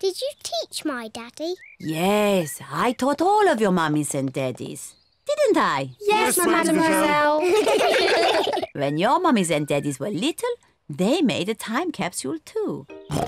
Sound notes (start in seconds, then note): 6.8 all laugh